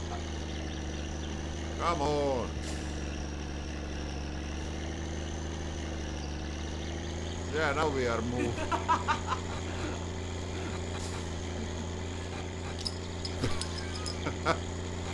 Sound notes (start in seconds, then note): 6.1 engine accelerates; 8.4 laughing; 13.2 bottle cap clatters